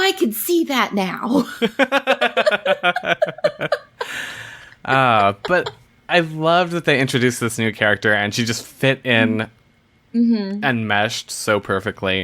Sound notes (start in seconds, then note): 1.4 laughs